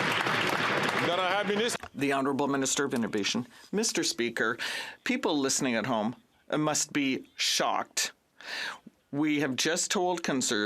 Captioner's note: some Applause